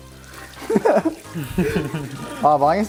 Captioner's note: hollow laugh